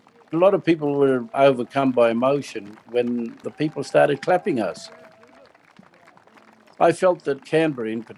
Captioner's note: crowd cheering